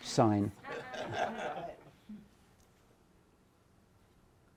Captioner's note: laughter